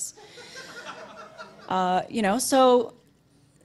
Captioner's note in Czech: publikum se směje